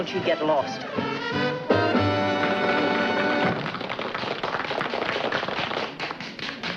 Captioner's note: lively music; audience applauding